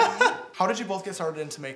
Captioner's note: laughs